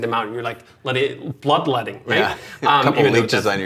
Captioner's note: laughs